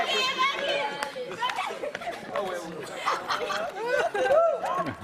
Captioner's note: girl yelling